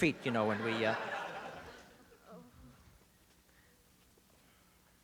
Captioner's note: laughter